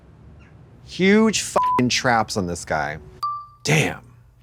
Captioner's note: beep